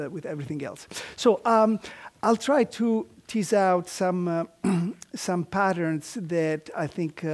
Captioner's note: cough